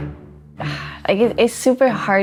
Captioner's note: sighs